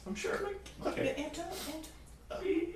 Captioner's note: pretend crying